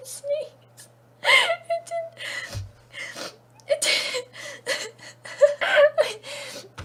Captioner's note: breathless giggling